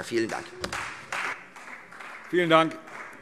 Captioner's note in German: Beifall Freie Demokraten